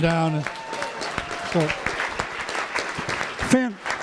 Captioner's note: applause; cheering; applause